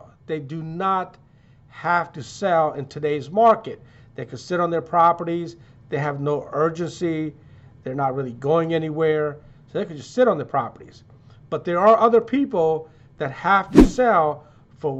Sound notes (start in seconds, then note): none